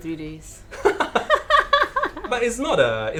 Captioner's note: both laughing